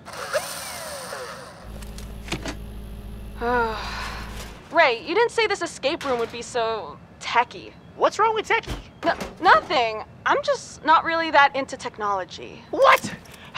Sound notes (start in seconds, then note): 0.0 machine buzzing; 3.4 sighs